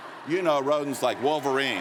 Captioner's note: cheers & Applause